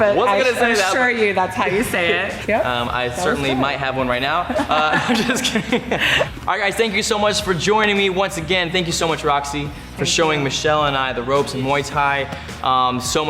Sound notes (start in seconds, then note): 4.2 laughs